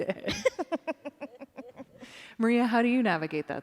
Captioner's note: laughter